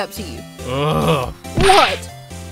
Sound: groan

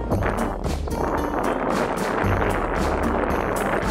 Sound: wind Noises in the microphone

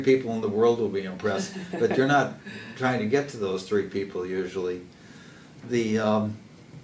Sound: laugh

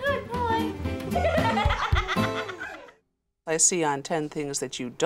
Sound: laughs

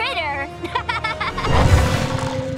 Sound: laughing

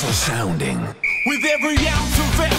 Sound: whistle

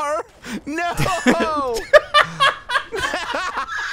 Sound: laughing

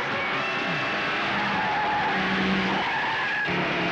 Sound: tires squealing

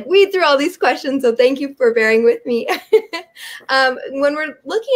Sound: giggles

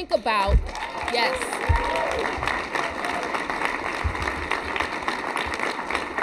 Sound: cheers and applause

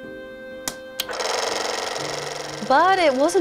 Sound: film reel clatters

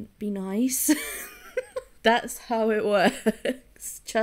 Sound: laughing

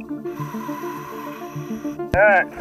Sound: water bubbling; exhaling air

